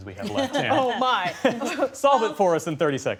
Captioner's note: laughter